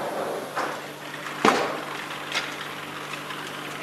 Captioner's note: clattering of the wheels